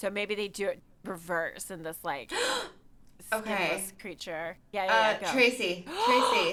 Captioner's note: gasps